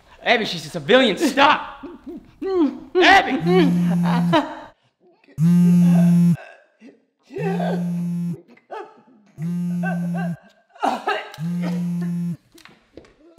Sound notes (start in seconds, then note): 3.5 phone vibrating; 11.1 coughing